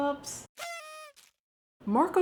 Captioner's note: party horn blows